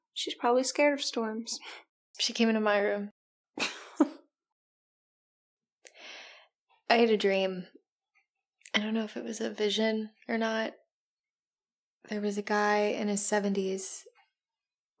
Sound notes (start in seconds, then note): 3.6 Amber laughs